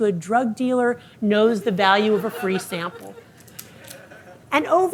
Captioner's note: audience laughing